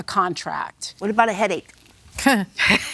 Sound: laughs; chuckles

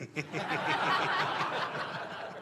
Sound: laughter

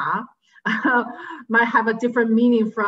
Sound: chuckles

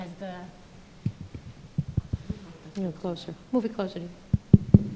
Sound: mic thudding

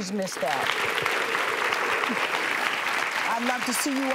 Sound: applause

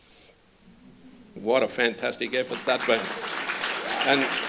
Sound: applause

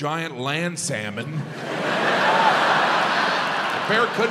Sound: audience laughs

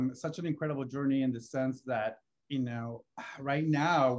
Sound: sighs

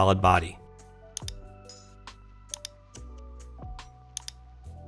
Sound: mouse clicking

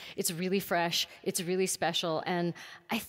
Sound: none

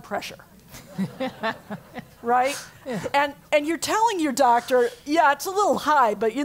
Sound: laugh

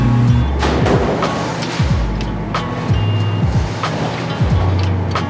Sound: metal clanking and scraping

